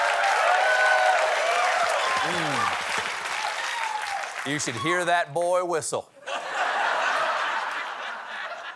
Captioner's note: laughter